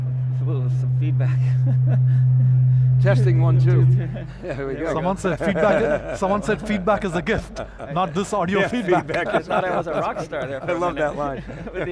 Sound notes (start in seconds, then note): 1.3 laughs; 5.7 laughs; 8.9 laughs